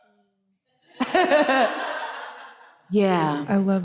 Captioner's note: laughs